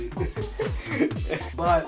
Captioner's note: laughs